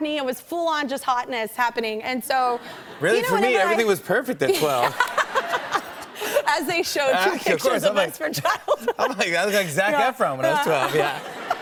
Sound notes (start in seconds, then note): 3.2 light laughter; 4.4 laughter